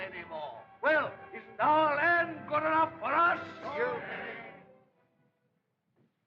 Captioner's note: others Exclaim